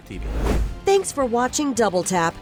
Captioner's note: whooshing sound